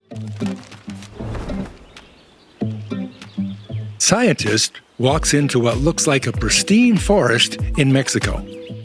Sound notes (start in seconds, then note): 0.1 birds chirping; 0.2 lively music